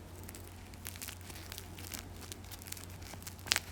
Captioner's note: bread crackling